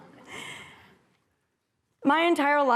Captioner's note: laughter